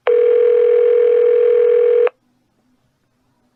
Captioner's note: phone still ringing